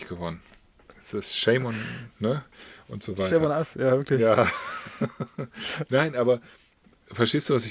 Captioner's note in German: gelächter